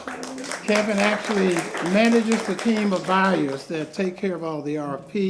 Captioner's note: applause